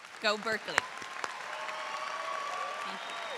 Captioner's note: audience applauds